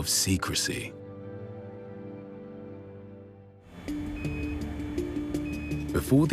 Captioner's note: music playing, device beeping